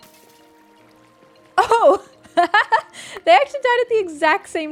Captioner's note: laughs